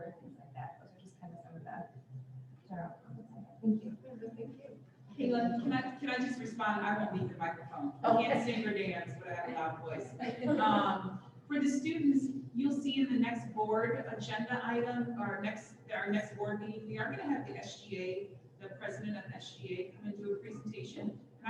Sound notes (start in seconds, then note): 10.2 laughter